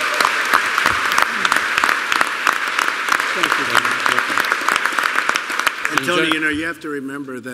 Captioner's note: applause